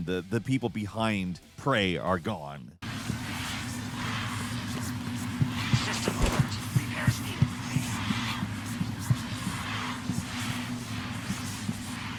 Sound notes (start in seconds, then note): 3.1 wind blowing